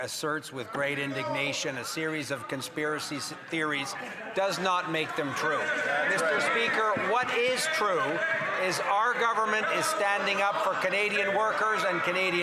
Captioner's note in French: voix de l'interprète